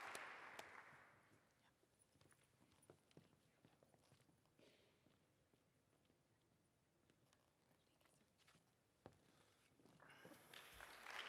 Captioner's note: applause